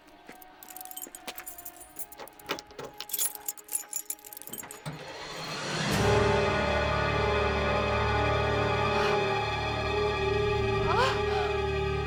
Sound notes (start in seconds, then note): 0.1 keys jingling; 5.1 dramatic music; 9.2 Rebecca gasping